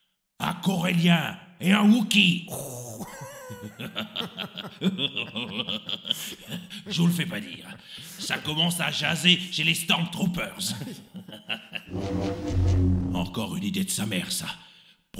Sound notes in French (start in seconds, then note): 3.0 Rires; 10.6 Rires